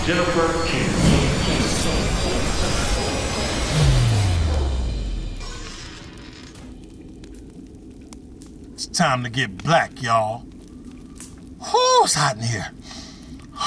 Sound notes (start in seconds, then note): 5.4 door creaks; 11.4 fire crackling